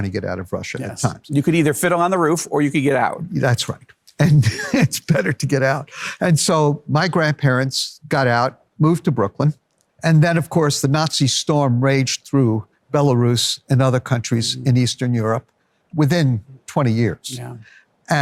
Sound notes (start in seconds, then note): 4.2 laughs